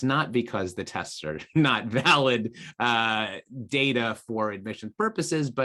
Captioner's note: laughs